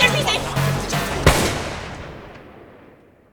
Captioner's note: gunshot